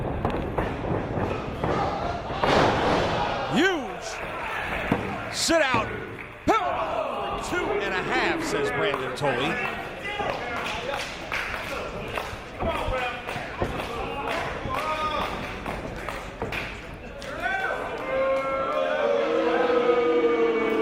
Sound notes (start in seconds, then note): 10.2 applause